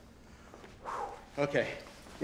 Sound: exhales

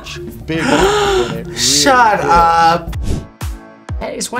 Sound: gasps

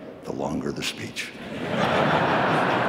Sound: laughter

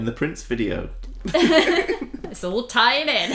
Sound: giggles

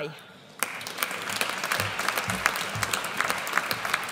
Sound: audience applauds

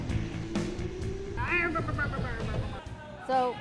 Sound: intense music; makes car noises

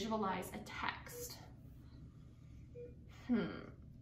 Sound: beeping

